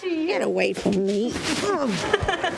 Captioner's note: grunts